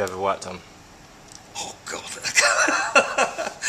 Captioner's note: laughs